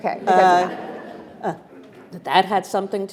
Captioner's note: attendees laughing